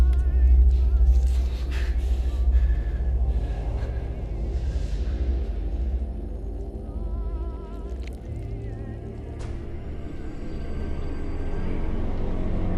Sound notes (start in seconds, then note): 0.1 muffled 1920's music; 2.5 Clint breathing heavily; 2.5 soft tense music; 9.6 soft tense music